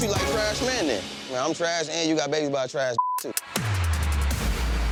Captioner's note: beep; exciting music